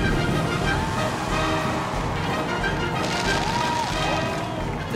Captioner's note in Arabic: هتاف الجماهير